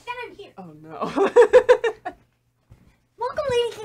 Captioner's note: laughing